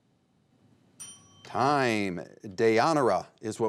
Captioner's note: bell chimes